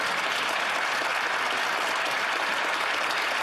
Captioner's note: some Applause